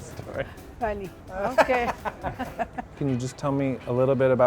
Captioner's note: laughs